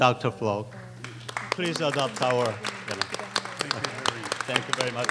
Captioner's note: applause